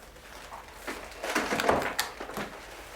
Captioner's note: door closes